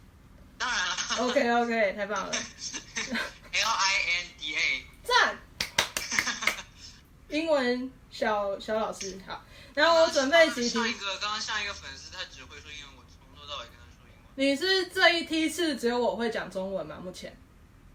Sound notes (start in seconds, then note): 5.5 clap; 5.9 laugh